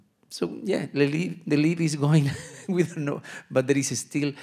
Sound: laughs

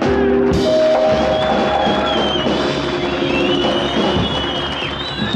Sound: audience cheers

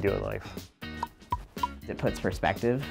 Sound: popping

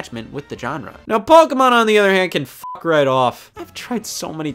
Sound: beep

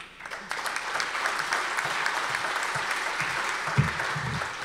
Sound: audience applause

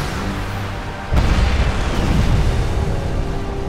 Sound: explodes

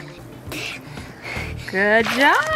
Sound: heavy breathing

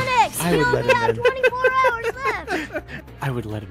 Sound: laughs

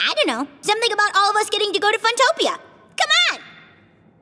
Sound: none

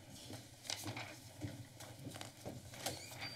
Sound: footsteps; door opening

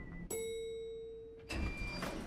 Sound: elevator dings

